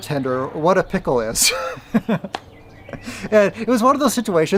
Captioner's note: laughs